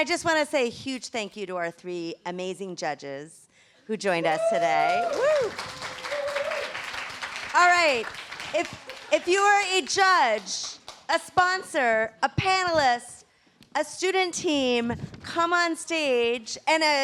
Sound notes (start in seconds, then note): 4.4 applause